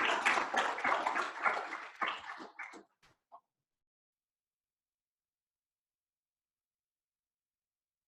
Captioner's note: applause; silence